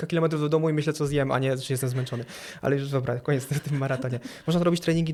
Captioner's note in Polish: śmiech